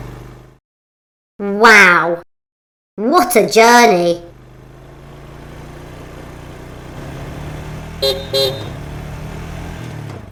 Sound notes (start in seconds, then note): 4.2 sound of Taxi returning; 8.0 beep! Beep!